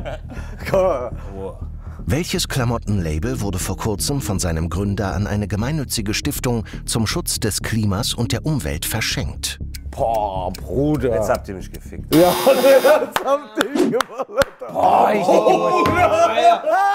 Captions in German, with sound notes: Boah, Bruder ... - Jetzt habt ihr mich gefickt. (Lachen) Boah, hätt ich nicht gewusst.